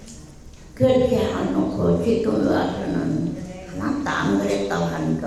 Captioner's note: speaking in foreign language